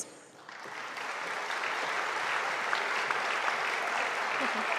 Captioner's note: audience applauding